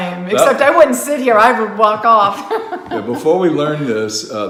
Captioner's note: laughs